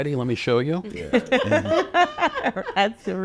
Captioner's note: audience laughing